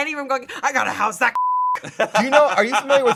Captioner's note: beep